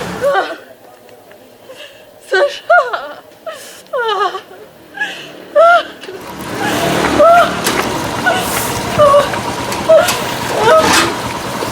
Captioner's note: a girl crying